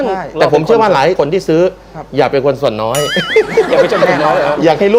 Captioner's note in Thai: เสียงหัวเราะ